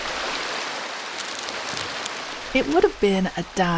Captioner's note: water rushing